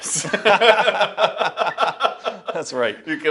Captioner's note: laughing